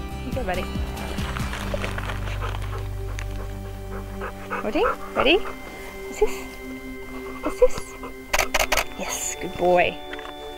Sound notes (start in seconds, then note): 8.3 camera shuttering